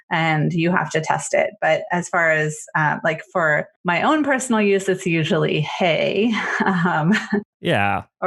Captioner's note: laughs